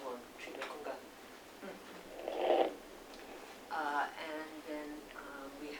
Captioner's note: non-english speech